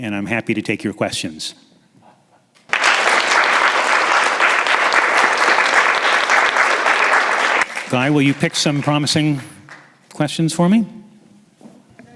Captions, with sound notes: and I'm happy to take your questions. (audience applauding) Guy, will you pick some promising questions for me.